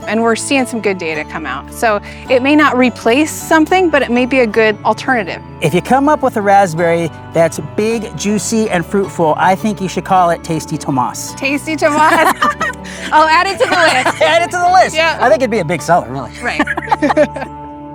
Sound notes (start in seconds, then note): 11.9 both laugh; 16.3 both laughing